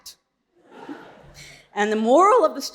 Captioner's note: audience laughing